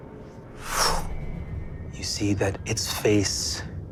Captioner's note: imitates air whooshing